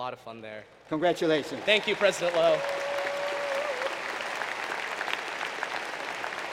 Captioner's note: applause